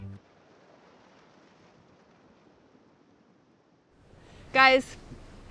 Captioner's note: gentle waves crashing